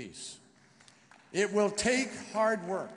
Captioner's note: applause